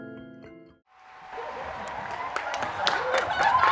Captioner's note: applause